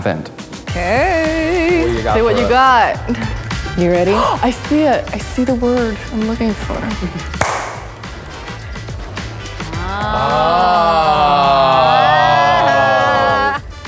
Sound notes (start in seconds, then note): 5.2 gasp; 7.0 clap; 7.8 group murmurs with excitement